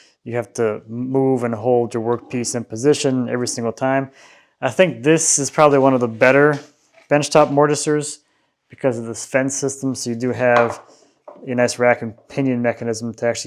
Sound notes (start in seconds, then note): none